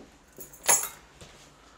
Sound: keys Dropping on Counter

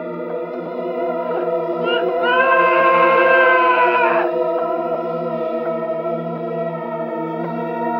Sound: Barry Screams

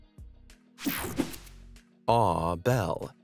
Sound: air whooshing

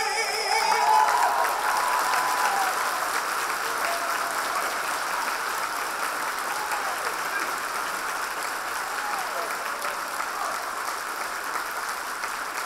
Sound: applause

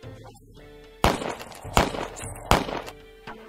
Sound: gun noises

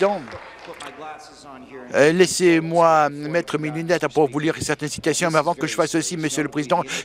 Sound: applause

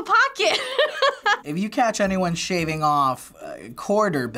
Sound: laughs

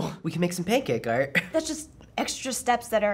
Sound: laughs

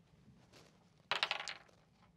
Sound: dice clacking

